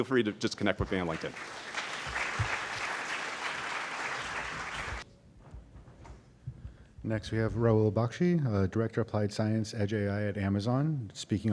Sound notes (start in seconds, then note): 0.8 applause